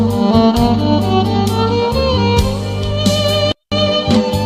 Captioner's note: clap